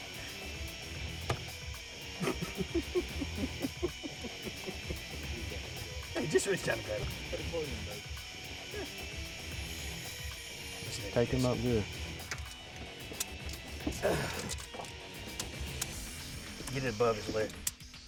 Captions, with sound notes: (hearty laughing) (muffled conversation) Tape him up good. - Get it above his leg.